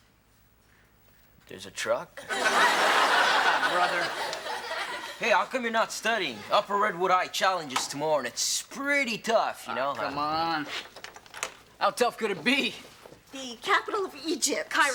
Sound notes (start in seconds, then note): 2.2 audience laughs